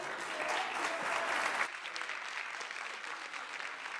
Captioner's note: audience applauding